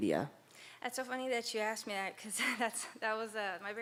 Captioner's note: laughs